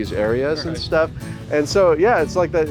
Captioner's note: laughs